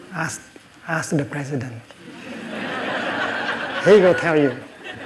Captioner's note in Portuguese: risos